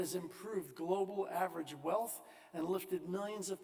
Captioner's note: none